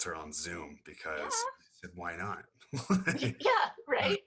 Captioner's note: laughs